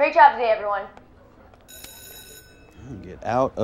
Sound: bell rings

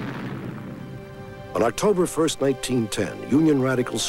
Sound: explosion

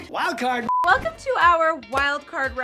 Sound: beep

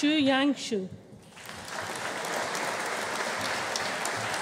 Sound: audience applauding

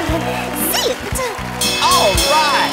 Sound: bell rings

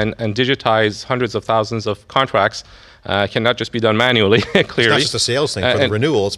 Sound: laughs

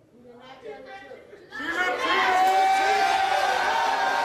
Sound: crowd; audience jeers

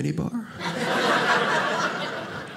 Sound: audience laughing

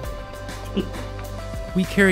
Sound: chuckle

